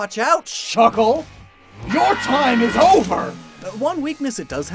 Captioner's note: engine rev SFX, yelling